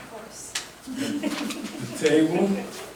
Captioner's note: group laughing